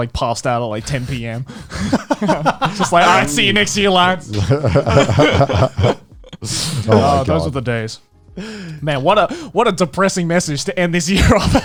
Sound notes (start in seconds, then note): 1.6 all chuckling; 4.8 all laughing; 11.2 chuckling